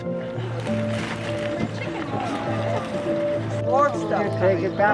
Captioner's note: outside chatter